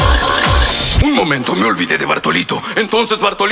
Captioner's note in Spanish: Sonido de animales; Sonido de animales